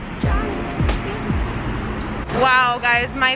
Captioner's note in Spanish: motores de autobús retumbando